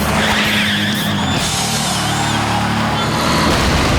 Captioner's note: cheering